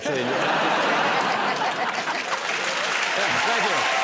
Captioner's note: laughter and applause